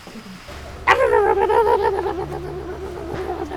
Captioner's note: barking sounds